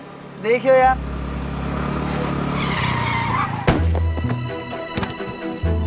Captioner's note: Screeching sound